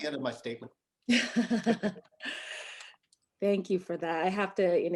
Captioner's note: laughter